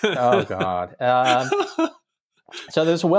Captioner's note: chuckle